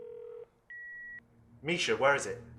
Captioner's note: phone beeping